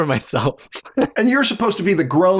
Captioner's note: laughter